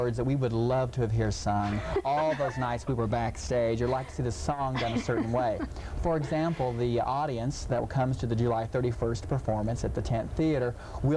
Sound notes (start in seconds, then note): 1.6 laughing